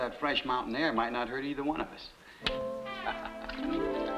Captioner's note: laughs; dramatic music